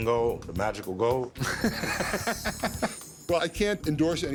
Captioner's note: laughter